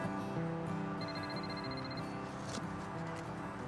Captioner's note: phone rings